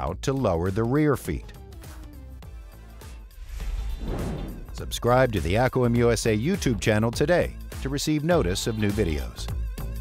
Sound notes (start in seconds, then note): 1.8 lively music; 3.3 screen whooshing